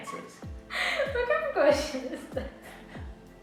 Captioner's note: laughing